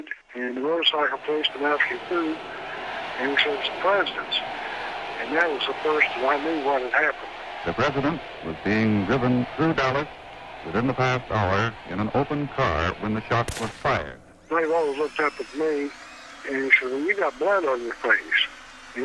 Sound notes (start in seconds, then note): 13.4 gun bangs